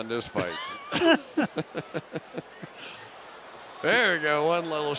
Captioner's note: laughter